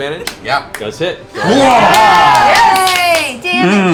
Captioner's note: cheering